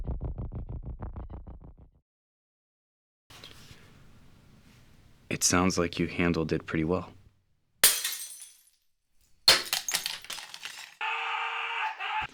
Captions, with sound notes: It sounds like you handled it pretty well. (glass breaking) (glass breaking) (Gabe screaming)